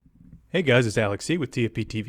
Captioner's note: voiceover